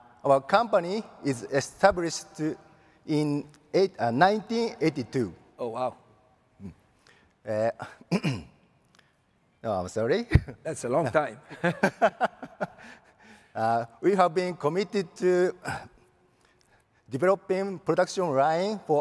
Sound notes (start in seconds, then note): 7.8 clears throat; 11.8 laughs